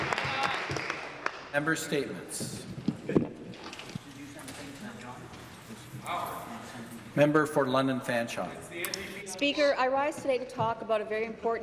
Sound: applause

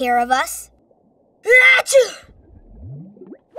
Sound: sneezes

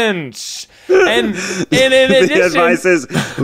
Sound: laughing

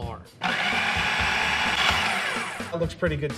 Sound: food processor running

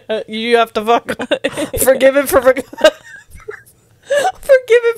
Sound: panel laughing

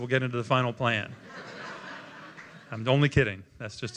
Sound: laughter

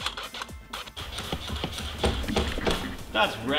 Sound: thudding

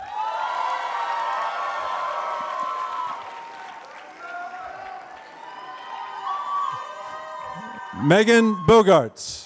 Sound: applause

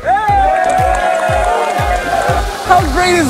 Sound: team cheers

